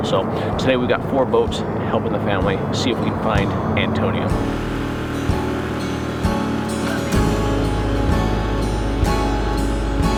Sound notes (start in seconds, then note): 5.1 boat engine revving